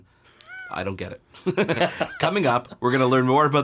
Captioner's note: laughs